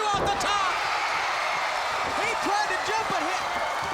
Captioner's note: crowd cheering